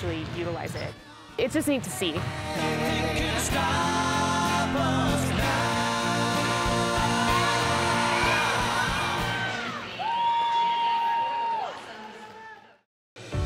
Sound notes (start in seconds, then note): 2.4 soft rock music; 10.2 cheering